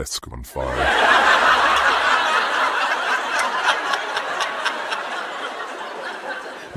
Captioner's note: audience laughing